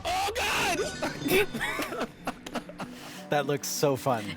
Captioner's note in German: alle lachen